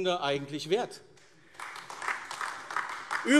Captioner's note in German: Beifall AfD